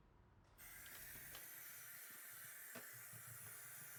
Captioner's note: water running